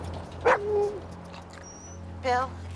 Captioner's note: howls; Buck barks